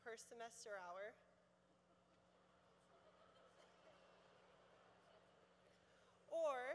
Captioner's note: laughter